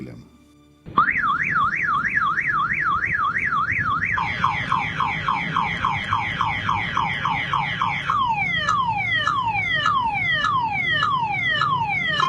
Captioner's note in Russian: чувак имитирует звук автомобильной сигнализации